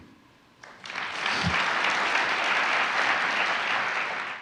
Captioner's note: audience applauding